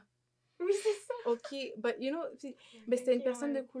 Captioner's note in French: rires